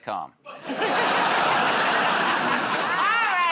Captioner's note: laughter